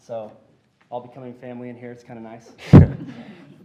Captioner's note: laughter